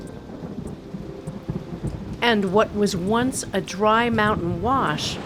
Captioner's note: thunder